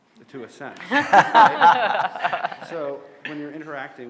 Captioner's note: audience laughing